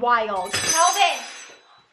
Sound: metal crashes

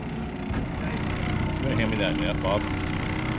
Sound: boat engine idling

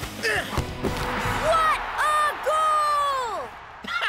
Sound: crowd cheering; laughs

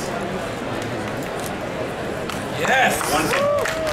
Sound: audience chattering; audience clapping

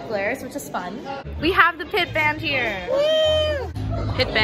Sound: cheers

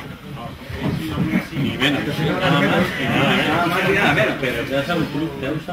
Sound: murmuring

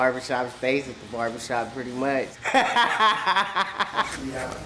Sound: laughs

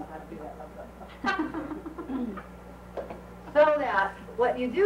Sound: laughing

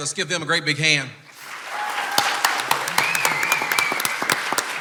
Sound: clapping and cheering

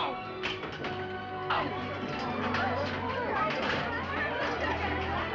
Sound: excited Chattering

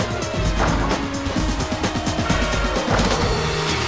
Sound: net swooshing

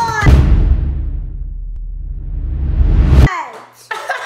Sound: dramatic sound

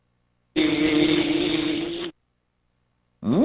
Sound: buzzing

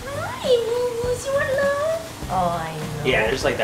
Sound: cute mumbling

